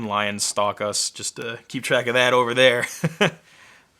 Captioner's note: laughing